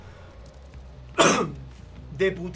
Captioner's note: Coughs in Spanish